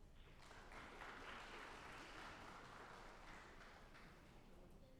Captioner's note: audience applauding